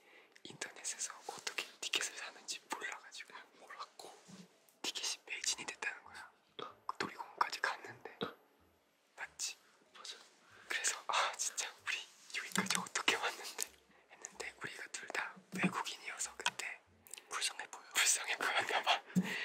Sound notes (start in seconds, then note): none